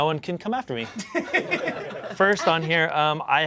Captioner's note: audience laughing